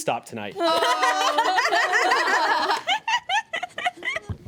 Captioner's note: everyone laughs